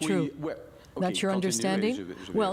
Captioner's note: speaking French